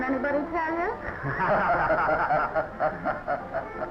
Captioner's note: laughing